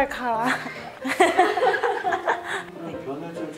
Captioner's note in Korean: 웃음